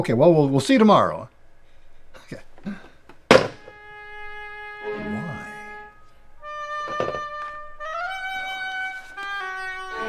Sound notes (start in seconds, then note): 3.2 phone receiver thuds; 3.8 dramatic instrumental music